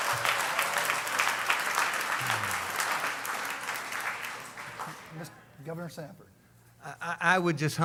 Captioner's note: applause